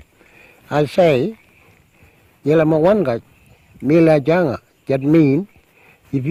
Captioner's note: speaks Aboriginal language